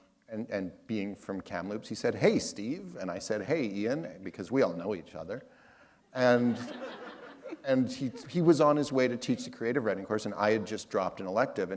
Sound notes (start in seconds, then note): 6.3 laughter